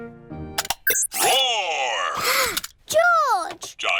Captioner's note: gasps